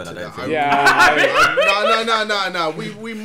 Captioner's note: laughing